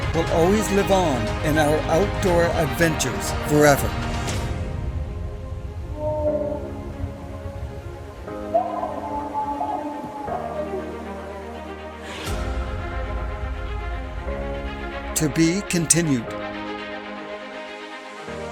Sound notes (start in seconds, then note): 6.2 distant howls